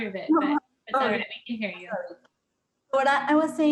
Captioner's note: mumbles